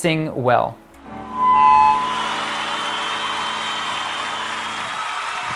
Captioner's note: cheering and applause